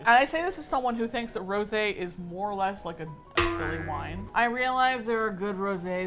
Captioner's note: with exasperation